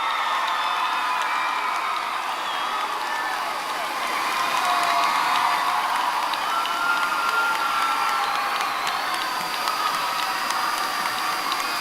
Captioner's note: cheering